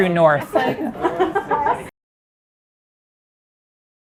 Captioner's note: young laughing